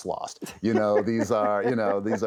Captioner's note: laughs